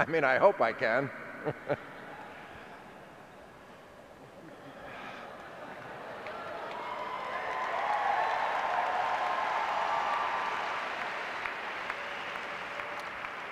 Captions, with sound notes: I mean, I hope I can! (audience laughing) (clapping and cheering)